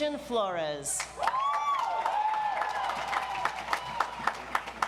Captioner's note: audience applauds